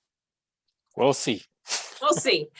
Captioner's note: chuckles